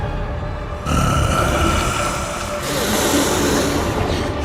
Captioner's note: demonic groan